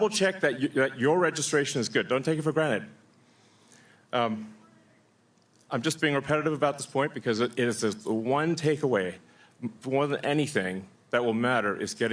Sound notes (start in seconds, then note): none